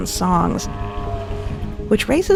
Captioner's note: whale calling